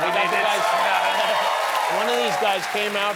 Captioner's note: applause